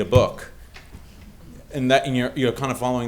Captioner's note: audience chuckling